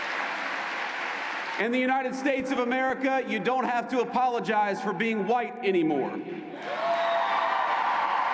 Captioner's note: cheers and applause